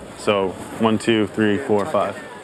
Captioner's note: indistinct chatter